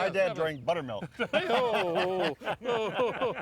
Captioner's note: laughing